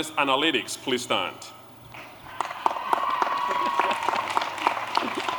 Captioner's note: applause